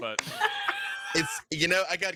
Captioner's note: laughs